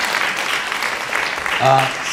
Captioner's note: applause